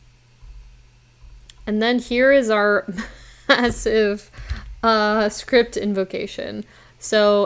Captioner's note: chuckles